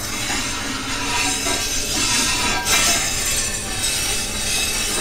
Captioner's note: grinder scraping